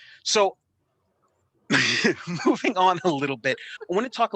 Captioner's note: laughing